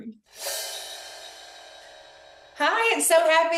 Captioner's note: air whooshing